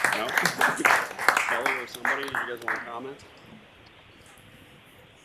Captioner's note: cheers and applause